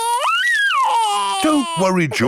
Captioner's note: crying